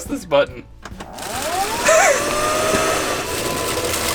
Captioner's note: vacuum noise